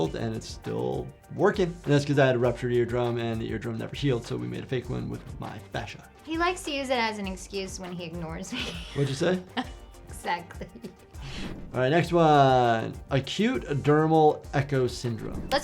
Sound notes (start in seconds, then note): 8.5 chuckles